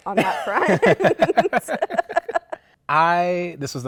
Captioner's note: laughter